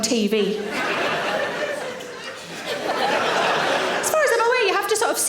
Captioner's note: audience laughing